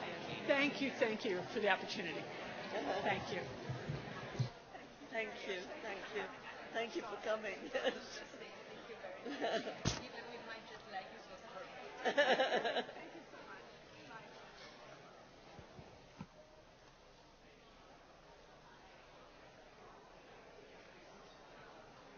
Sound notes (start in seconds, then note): 7.0 laughs; 7.4 audience chatter as people leave